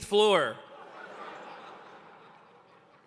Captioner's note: laughter